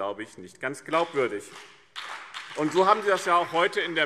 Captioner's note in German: Beifall BÜNDNIS 90/DIE GRÜNEN und CDU